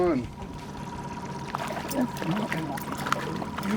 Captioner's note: fish splashing